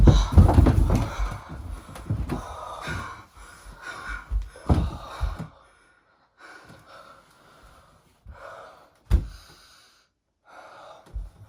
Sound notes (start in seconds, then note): 0.0 bodies clatter; 0.0 labored breathing